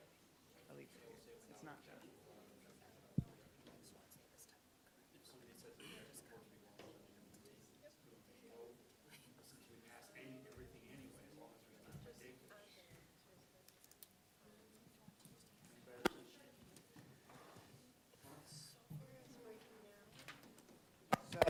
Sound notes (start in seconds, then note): 7.0 students chattering